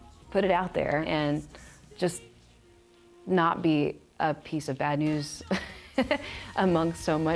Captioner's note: risos